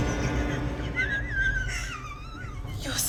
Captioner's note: laughing